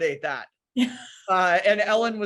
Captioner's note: laughs